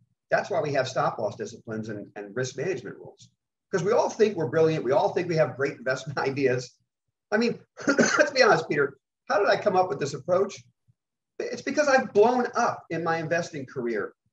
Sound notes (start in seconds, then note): 7.7 coughs